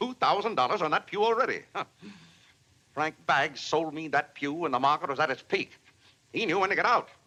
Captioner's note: scoffs